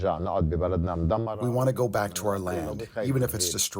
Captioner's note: through translator